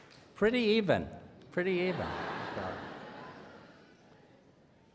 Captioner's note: laughter